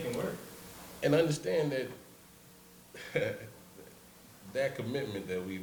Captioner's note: laughs